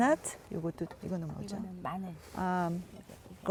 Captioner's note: speaking Korean